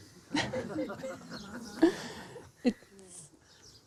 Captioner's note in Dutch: gelach